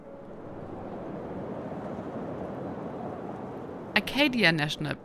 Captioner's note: wind blowing